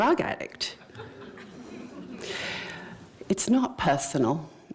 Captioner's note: laughter